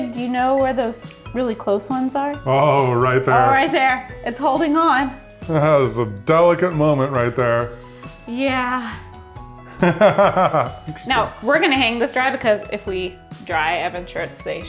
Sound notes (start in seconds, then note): 9.7 laughs